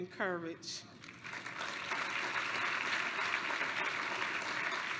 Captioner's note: applause